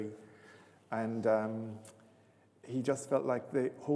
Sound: none

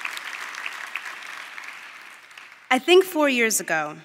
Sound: applause

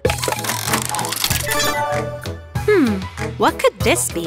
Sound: mechanical whirring

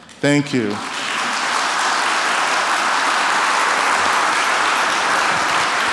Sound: applause

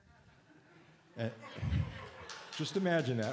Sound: laughter

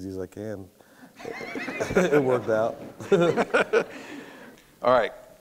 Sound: laughter

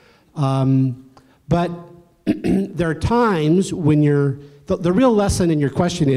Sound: cough

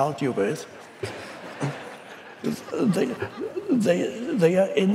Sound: audience laughs

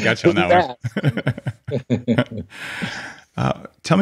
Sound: laughing

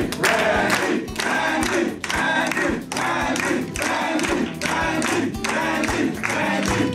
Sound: crowd

